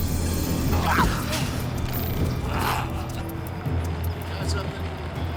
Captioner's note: cougar growls and snarls